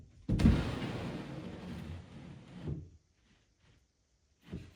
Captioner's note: wood scraping